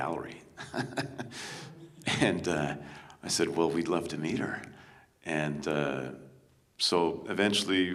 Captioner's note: chuckles